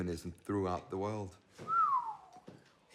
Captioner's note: partner whistles